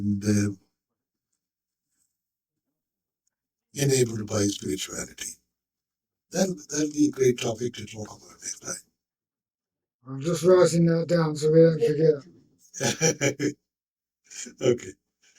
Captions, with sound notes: And enabled by spirituality. That'll be a great topic to talk about next time. I'm just rising down so we don't forget. (laughing) Okay.